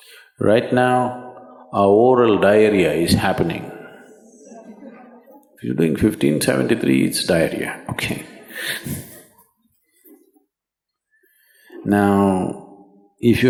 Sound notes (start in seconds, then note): 10.7 laughs